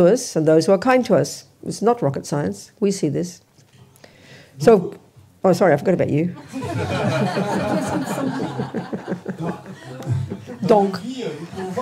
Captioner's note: laughter